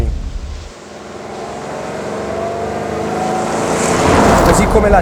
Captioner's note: engine rpm GROW